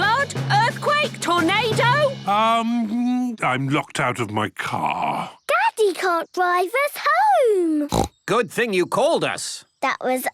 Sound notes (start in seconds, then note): 7.9 snorts